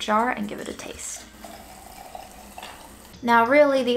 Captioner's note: liquid splashing